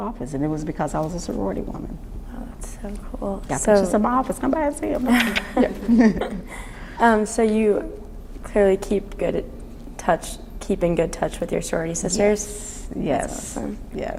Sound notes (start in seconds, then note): 5.0 laughs; 5.9 shutter sound